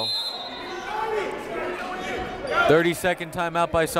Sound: whistle

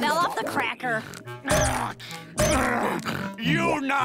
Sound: grunting

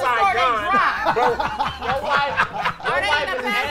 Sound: laughing

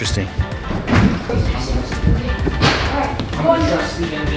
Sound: chatter

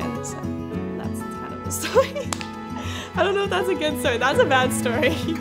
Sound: laughs

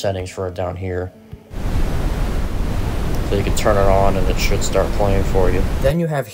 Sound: white Noise begins playing, then stops

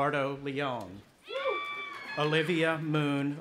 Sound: cheering

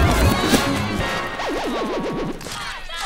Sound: crowd clamouring

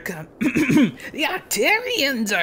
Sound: clears throat

